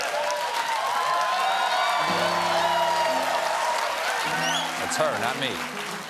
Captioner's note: cheers and applause